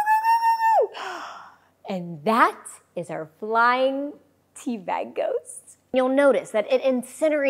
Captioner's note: gasps